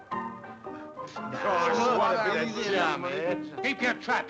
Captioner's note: people chattering